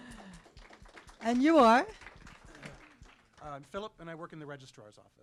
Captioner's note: applause